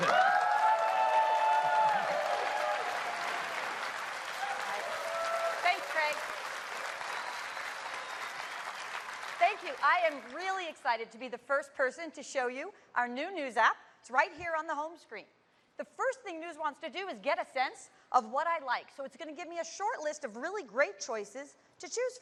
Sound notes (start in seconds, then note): 3.7 cheers and applause